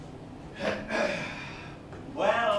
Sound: Mr. Hughes clears his throat

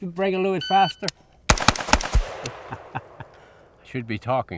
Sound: rifle firing

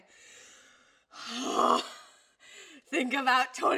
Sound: deep breath

